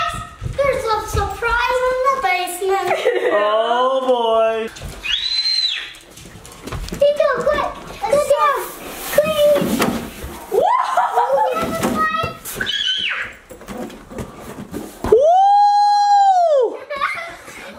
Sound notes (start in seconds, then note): 5.0 screams